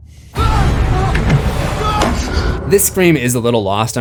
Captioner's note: screams